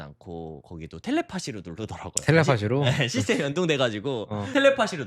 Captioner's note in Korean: 웃음